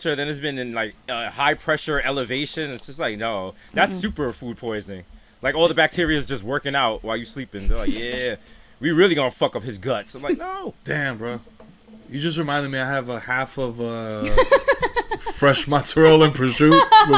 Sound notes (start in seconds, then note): 14.2 laughing